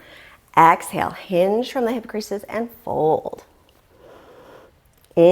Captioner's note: deep breathing sounds